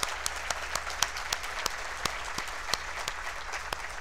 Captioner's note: applause